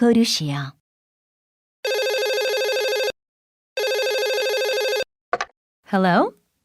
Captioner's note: telephone rings